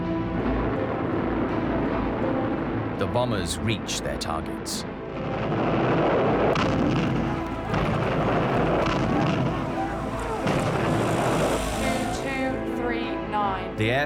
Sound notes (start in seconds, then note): 0.0 dramatic music; 0.0 plane engines roaring; 5.4 bombs exploding